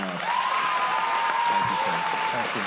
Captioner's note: applause